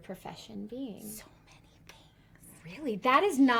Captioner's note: whispers